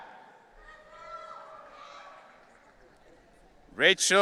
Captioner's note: audience cheering